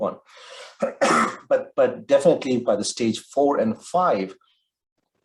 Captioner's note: coughs